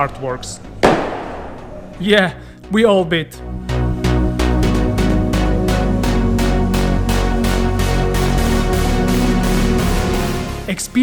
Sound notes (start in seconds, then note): 0.8 sbam!